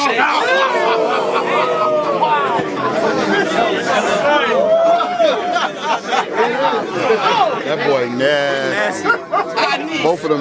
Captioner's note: crowd Reaction